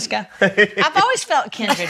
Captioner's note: laughs